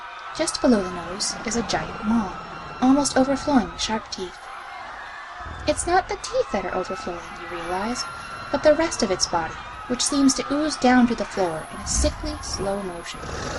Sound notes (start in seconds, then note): 6.6 panicked Crowd continues. Monstrous growling and snarling. Chains rattling